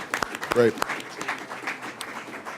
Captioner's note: applause